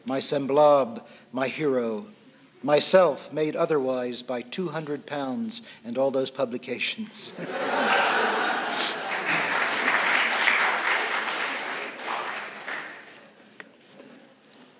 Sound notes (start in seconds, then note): 7.4 laughter and applause